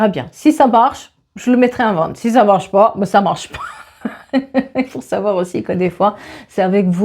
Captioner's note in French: rires